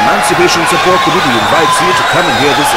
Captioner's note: wild applause and cheering for 22 seconds